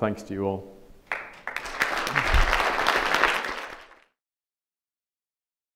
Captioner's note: audience applauds